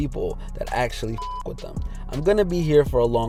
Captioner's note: beep